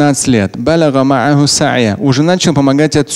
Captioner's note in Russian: Говорит на арабском